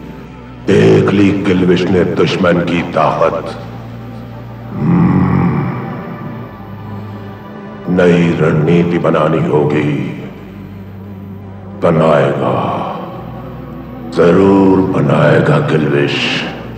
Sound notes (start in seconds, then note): 4.7 grunts